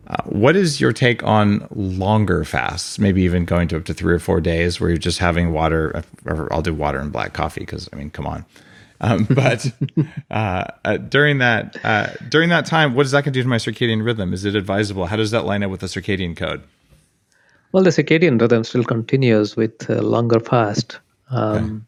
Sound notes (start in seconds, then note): 9.1 laughs